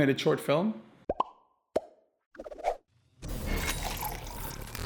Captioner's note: bubbles popping